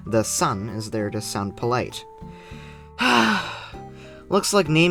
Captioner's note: sigh